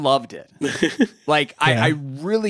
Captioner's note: chuckles